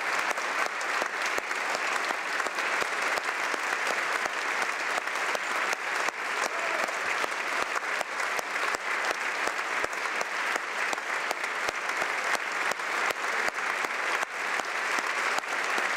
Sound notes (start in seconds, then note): 0.0 applause